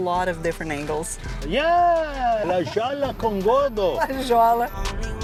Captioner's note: in Portuguese